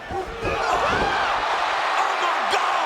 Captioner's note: crowd exclaiming